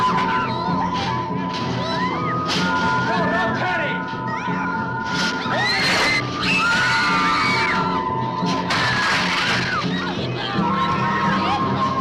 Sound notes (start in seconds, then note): 0.0 girls screaming; 0.2 suspenseful music; 5.1 dramatic music; 5.4 girls screaming